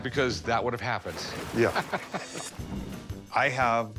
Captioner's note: laughs